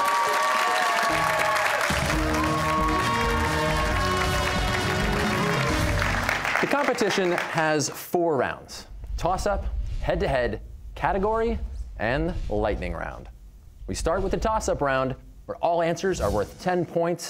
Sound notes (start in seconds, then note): 0.0 cheers and applause